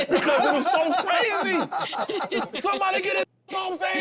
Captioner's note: group laughing